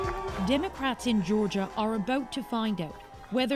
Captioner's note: clapping